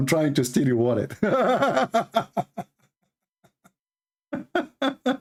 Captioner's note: Ketawa